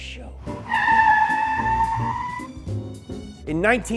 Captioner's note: tires civically screeching